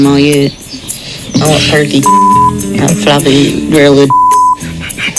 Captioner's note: beep